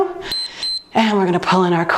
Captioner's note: timer beeps